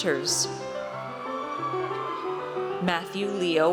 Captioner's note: audience cheers